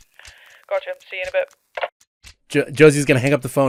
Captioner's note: over the phone; phone clacks and static ends